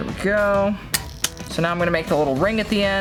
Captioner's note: pliers snipping